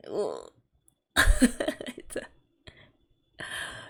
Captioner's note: laughs